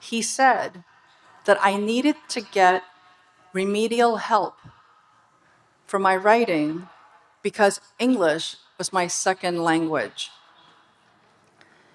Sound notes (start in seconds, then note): none